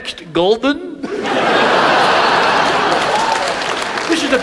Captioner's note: audience laughs; audience applauds